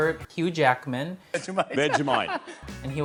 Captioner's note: laughs